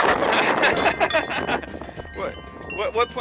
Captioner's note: both laugh; laughs